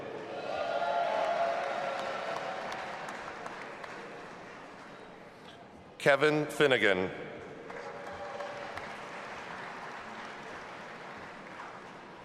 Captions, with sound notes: (audience applauding and cheering) Kevin Finnegan. (audience applauding and cheering)